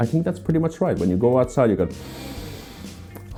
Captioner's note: sniffs loudly